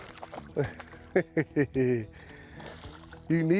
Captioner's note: chuckles